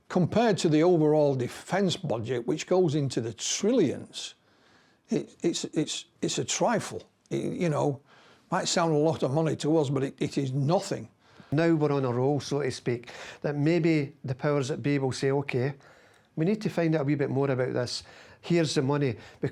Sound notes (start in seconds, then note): none